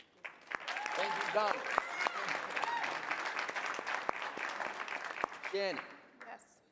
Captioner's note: applause